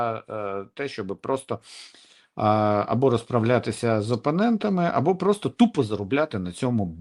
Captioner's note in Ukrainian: сопіння